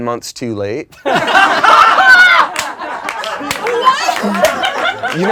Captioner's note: laughing